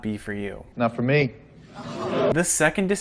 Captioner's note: audience gasps